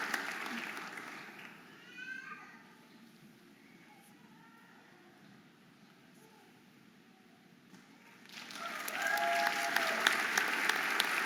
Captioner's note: audience applauding and cheering